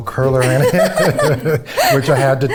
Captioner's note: both laugh